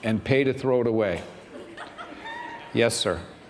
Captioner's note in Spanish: risas